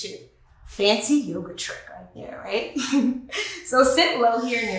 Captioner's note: laughs